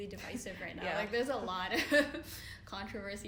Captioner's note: laughing